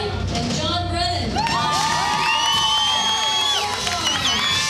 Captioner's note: crowd cheers